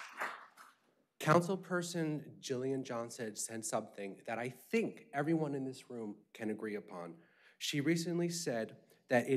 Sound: applause

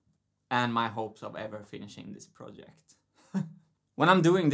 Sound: chuckles

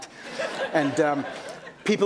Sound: laughter

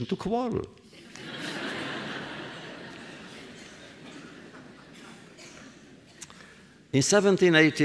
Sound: laughter

